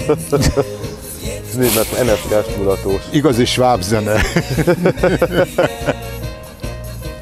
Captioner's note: both chuckle